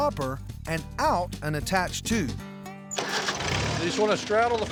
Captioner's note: tractor motor starts